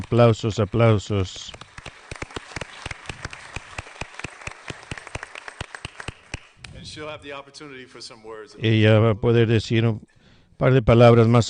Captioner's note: applause